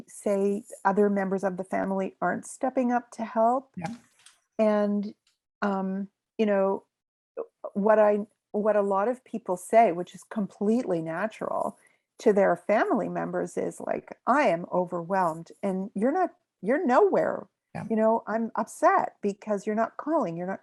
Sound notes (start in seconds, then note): none